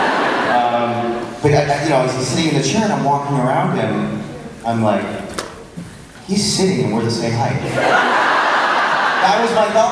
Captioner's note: crowd laughs; crowd laughs